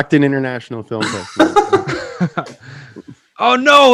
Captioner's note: hosts laughing